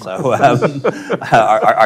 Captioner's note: panel laughing